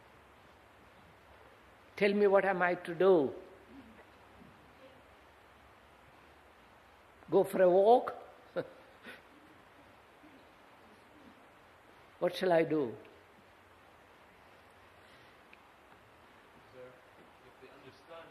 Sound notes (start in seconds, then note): 8.5 laughs